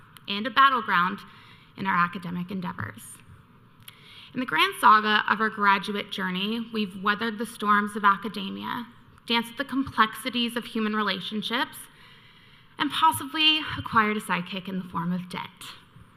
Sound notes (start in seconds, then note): none